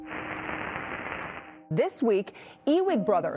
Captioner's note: static crackling